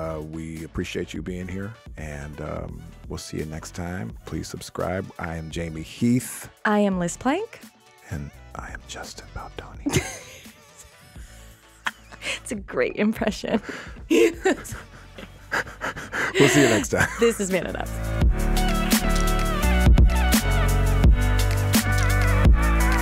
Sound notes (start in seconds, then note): 9.7 laughs; 13.5 laughs; 18.7 upbeat music